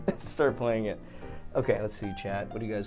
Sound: laughs

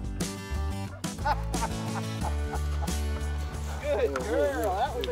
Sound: laughing

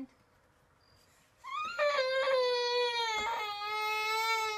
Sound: baby crying

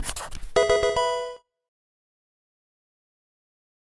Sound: intro: pencil writing; pokemon game sound

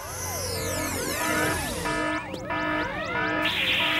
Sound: alarm!

